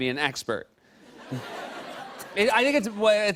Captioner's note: laughter